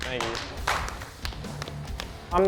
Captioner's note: applause